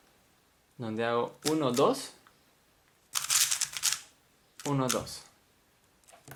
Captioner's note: cube noise